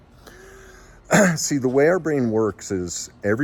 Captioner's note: coughs